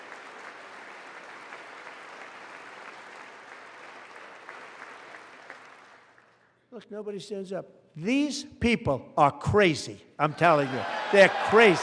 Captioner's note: applause